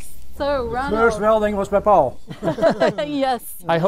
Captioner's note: laughter